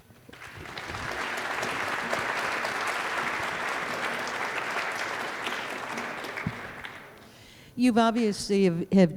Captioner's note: applause